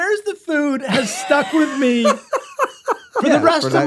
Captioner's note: Glenn laughs